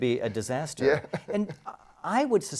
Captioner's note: laugh